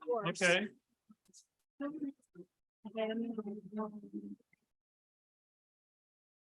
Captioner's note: indistinct chatter